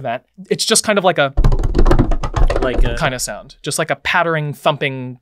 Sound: fast-paced pattering

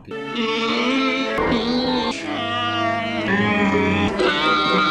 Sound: Annoying wookiee whining

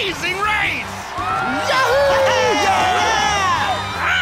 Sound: cheering

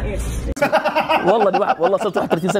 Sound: laughs

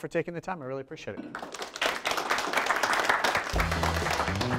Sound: audience applaud

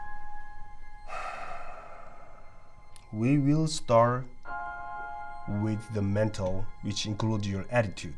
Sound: sighs

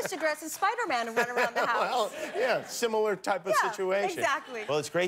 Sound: laughter

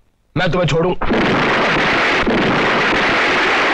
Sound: explosion

